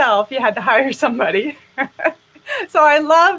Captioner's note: laughing